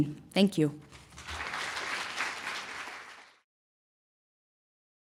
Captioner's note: applause